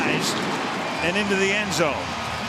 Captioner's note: firecrackers bursting